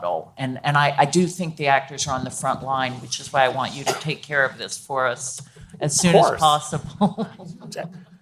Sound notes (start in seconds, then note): 6.7 laughs